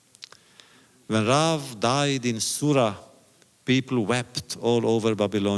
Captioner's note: none